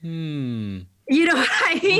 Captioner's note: hums appreciatively